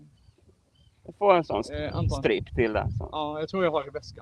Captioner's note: indistinct chatter